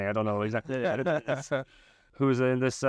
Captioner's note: laughing